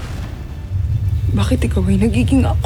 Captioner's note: infernal whoosh-crackle